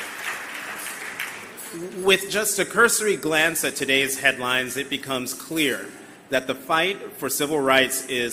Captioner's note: applause